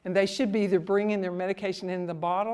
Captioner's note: none